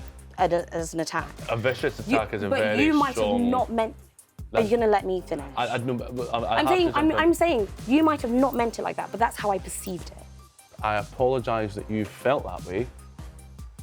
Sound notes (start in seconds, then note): 6.1 stuttering